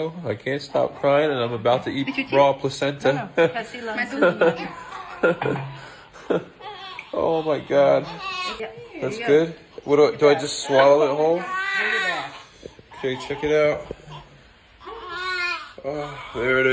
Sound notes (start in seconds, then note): 4.2 man laughs; 6.6 baby crying; 14.8 baby crying